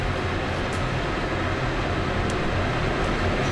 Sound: machine noise

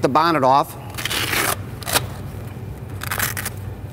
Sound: velcro sounds

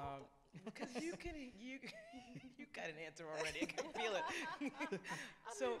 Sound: laughs

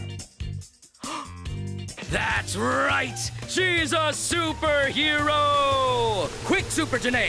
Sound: he gasps

